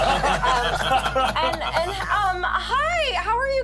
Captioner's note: everyone laughs